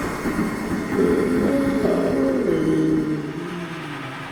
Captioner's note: Paul groaning